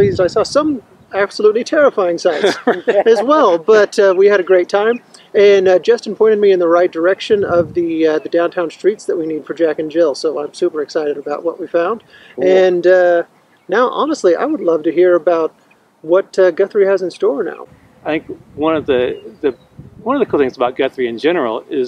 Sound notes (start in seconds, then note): 2.2 man laughs